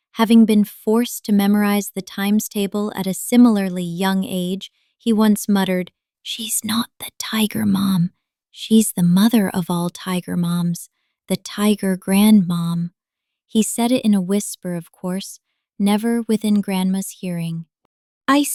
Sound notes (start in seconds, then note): 5.9 whispers